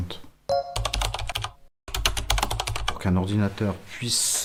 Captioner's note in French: bruit de clavier